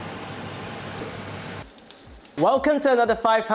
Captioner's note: pan sizzling